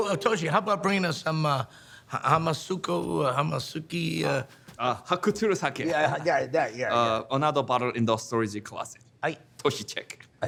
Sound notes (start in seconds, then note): 1.4 attempting to speak in foreign language; 5.1 speaking in foreign language